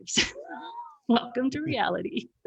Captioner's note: laughs